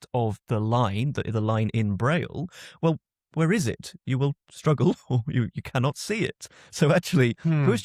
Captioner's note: chuckles